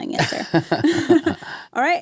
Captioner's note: both chuckle